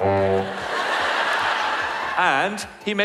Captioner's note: honk sound